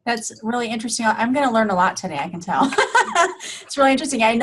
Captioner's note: laughter